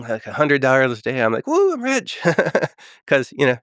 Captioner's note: laughs